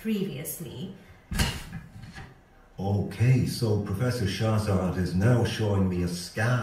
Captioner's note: rustling of paper